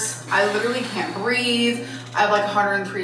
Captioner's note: exhaling